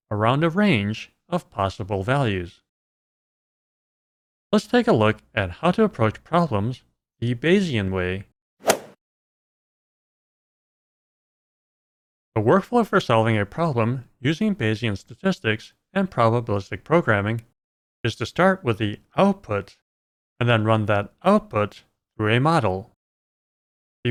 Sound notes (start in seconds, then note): 8.6 golf ball hit sound